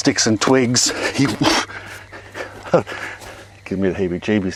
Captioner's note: chuckles